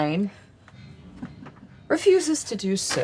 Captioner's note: chuckles